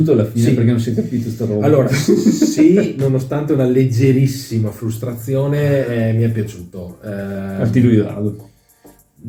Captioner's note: laughs